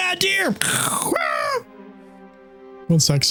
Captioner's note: screams